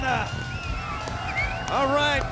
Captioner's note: crowd cheering